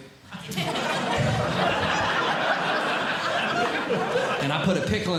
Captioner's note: audience Laughing